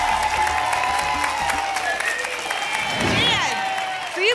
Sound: applause and cheering cont

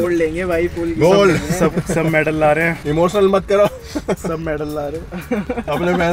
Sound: crying acting; giggles

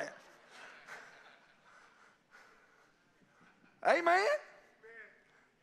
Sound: congregation laughing

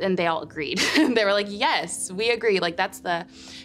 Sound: chuckles

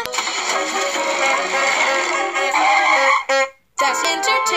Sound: giraffe honking

